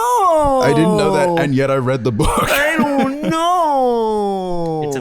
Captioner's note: whiny